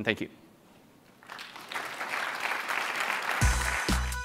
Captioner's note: applause